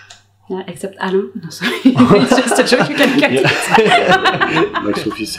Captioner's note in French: rires